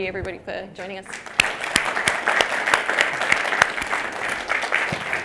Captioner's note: audience applauds